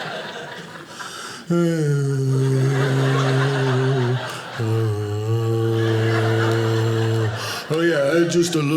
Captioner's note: groans